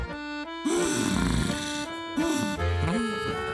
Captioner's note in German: TanzTapir stöhnt